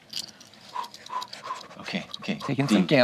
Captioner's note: dice clattering